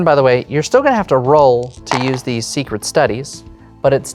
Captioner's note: dice rattle